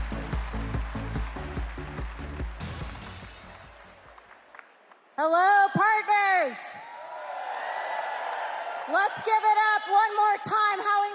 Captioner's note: cheers and applause